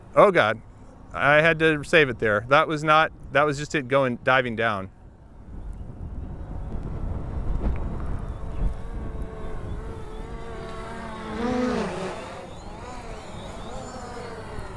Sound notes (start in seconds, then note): 8.0 drone whirs